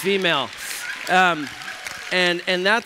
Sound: applause

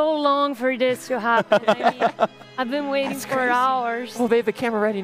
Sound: laughs

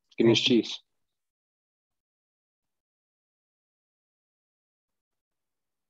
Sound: speaks in indigenous language

